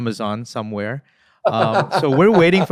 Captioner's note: laughing